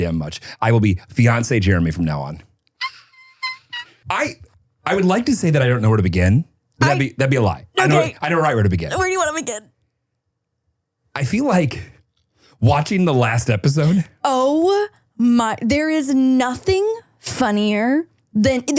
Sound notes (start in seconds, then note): 3.1 person screaming